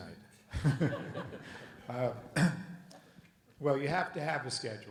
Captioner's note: panelists laugh